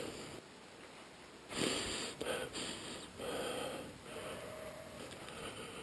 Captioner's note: sniffing the air